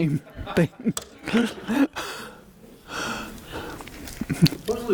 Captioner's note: audience laughing